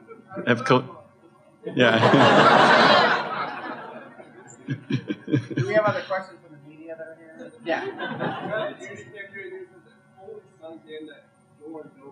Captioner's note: laughter